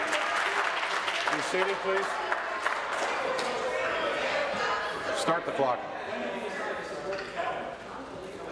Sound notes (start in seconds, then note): 0.0 applause